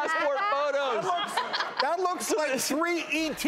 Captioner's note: Melissa Rivers and audience laughs